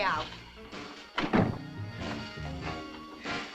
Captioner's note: door thuds; upbeat music